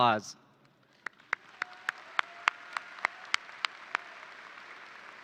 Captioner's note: audience applauds